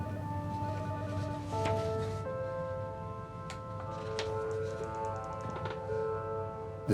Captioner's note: suspenseful music; phone ringing